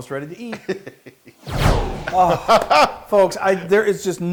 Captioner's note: laugh